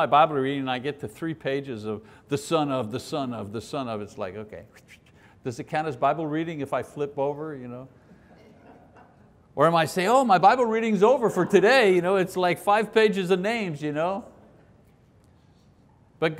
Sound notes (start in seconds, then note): 8.3 laughing